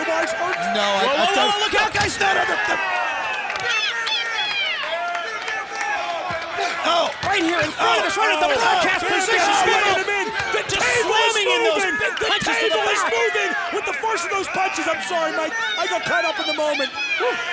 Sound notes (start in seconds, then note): 7.2 crowd cheering